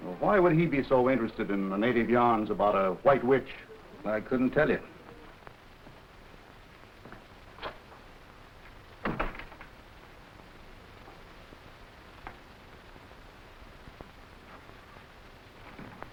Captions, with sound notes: - Well, why would he be so interested in the Native yarns about a white witch? - I couldn't tell you. (door slamming) (footsteps echoing)